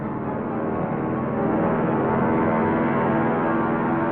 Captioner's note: plane propellers buzzing